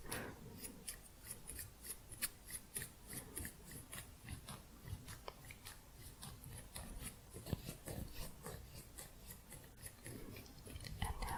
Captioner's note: scissors sounds